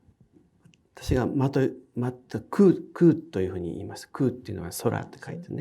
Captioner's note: speaking in foreign language